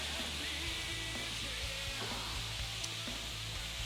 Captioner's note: pan sizzling